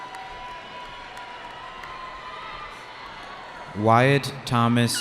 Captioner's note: cheering